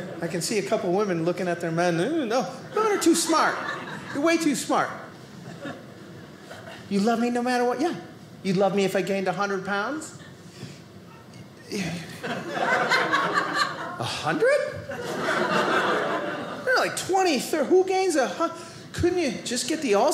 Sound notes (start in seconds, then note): 12.1 audience laughing